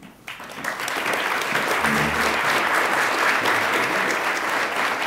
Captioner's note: attendees applaud